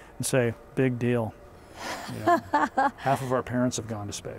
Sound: laughing

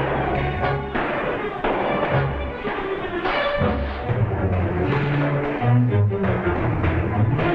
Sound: gunshots - tense music

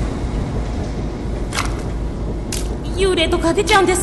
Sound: sounds of ship's machinery; footsteps in puddles

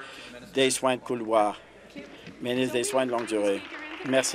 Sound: applause

